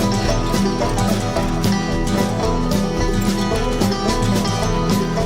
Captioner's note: wagon wheels squeaking